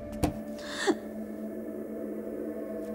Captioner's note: Door opening